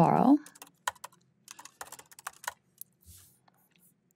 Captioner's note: keyboard clacking